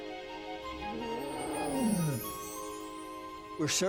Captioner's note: roars